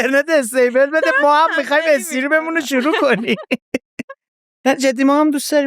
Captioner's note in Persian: خنده